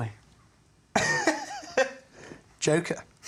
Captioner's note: laughs